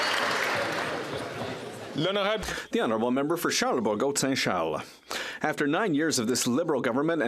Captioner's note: some Applause